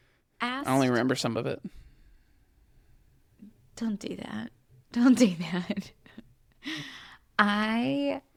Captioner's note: laughs